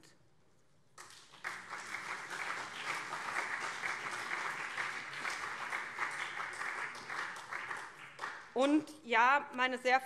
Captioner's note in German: Beifall SPD und CDU